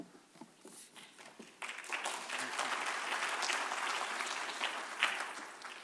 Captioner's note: applause